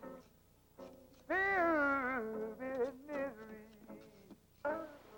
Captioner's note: shovels rustling